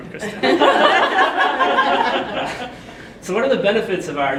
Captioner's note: audience laughing